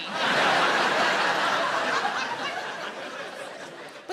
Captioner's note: audience laughs